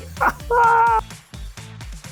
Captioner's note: laughs